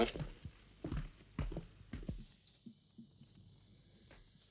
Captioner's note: footsteps walking